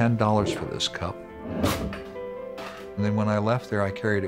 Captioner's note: metal being cut